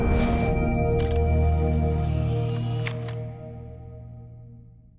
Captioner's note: camera clicking